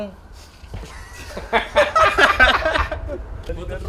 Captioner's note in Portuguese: risos